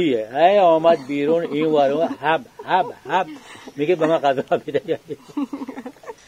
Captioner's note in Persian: صدای خنده